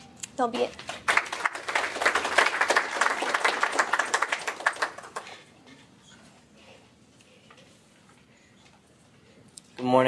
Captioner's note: �applause�